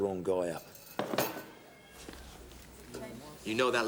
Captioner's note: chair clatters